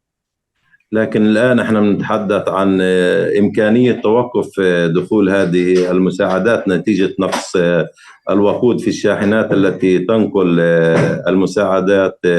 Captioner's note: speaking arabic